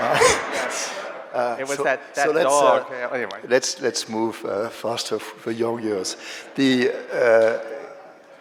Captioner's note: laughter